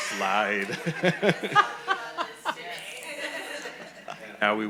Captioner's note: all laughing